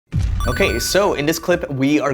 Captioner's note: coins clinging